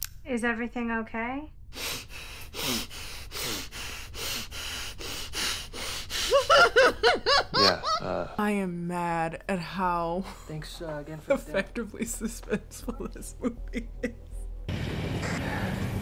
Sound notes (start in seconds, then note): 1.7 breathes heavily; 6.2 laughs